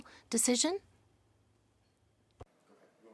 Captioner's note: speaking in French